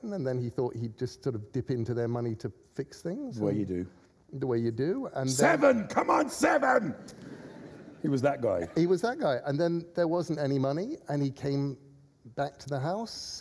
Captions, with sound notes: 'and then he thought he'd just dip into their money to fix things...' – The way you do. – The way you do. – Seven! Come on, seven! – (LAUGHTER) – He was that guy. – He was that guy. And there wasn't any money, and he came back to the house.